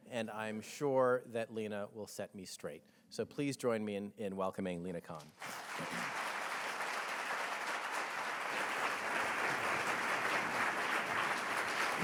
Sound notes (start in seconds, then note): 5.3 audience applauding